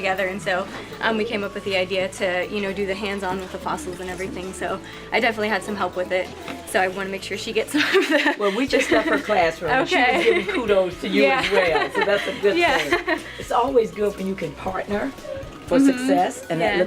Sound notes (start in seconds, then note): 7.7 laughs